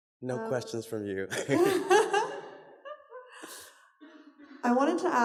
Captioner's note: laughter